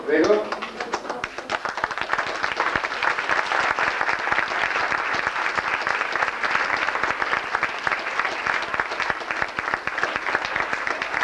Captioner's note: applause